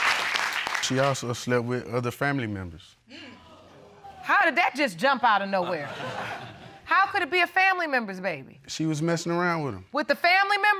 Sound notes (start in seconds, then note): 2.9 audience exclaims